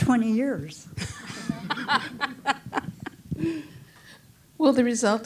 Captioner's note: chuckles